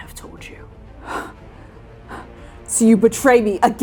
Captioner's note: steep breathing